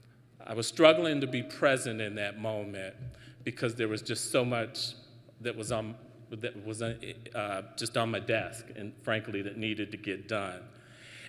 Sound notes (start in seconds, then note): none